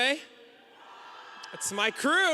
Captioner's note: audience cheering